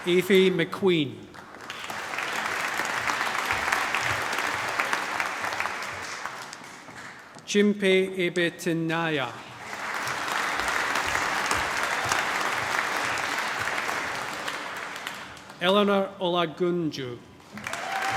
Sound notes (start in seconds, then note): 3.6 applause; 11.1 applause; 17.5 cheering, applause